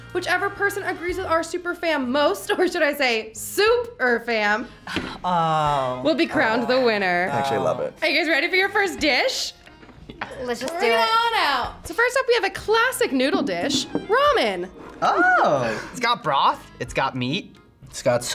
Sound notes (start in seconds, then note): 4.8 sighs; 9.9 laughs